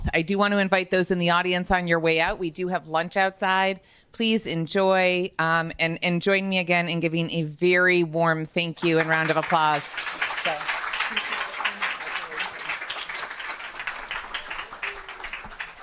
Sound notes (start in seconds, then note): 8.8 audience applauding